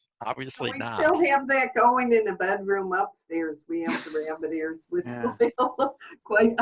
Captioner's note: laughing